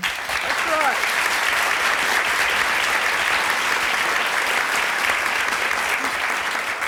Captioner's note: audience applause